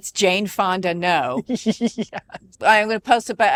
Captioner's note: laughing